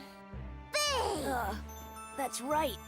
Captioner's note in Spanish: preocupado